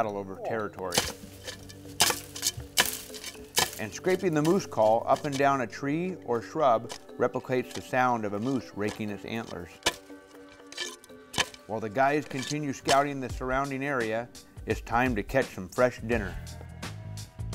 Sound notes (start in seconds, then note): 2.3 scraping